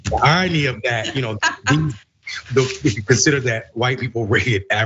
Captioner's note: laugh